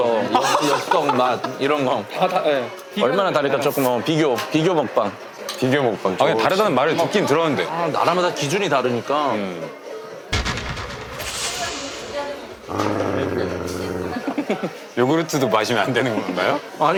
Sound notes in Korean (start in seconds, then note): 12.6 으르렁